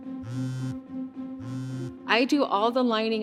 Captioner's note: phone buzzing